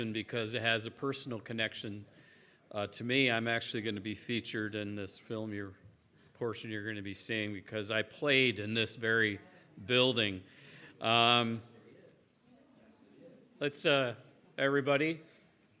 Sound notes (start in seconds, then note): none